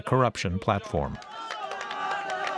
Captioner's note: cheering